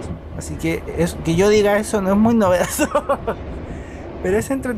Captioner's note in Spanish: risas